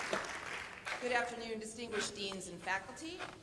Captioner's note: applause